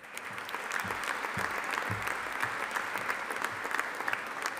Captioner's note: audience applauding